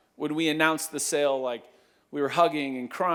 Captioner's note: none